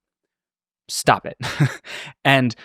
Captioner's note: laughs